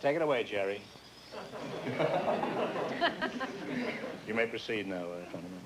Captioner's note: laughter